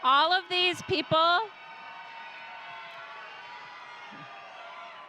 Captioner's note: audience cheering